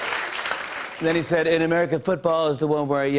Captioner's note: laughter and applause; normal voice; As Trump